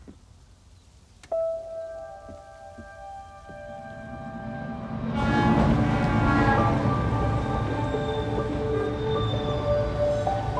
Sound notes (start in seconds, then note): 1.4 light clacking; 1.4 light music; 4.0 train whizzing; 4.5 train horn blowing